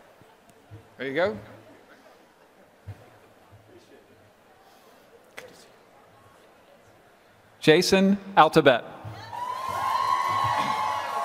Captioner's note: applause